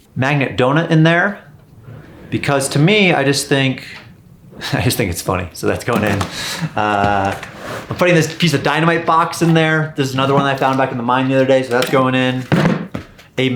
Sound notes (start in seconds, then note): 5.7 donut clunking in bucket; 6.0 chuckling; 12.7 bucket clunking